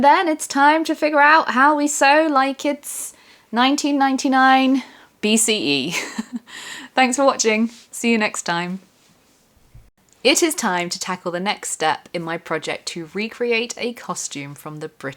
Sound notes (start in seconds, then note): 5.9 laughter